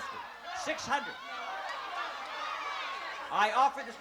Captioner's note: shouting